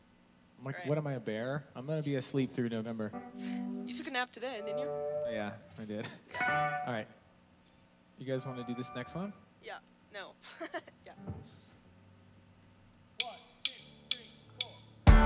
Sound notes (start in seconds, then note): 6.1 laughs; 10.4 laughs